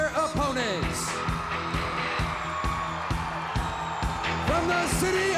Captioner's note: crowd cheering